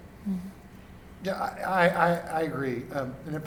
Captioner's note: pat